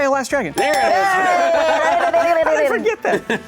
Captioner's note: laughter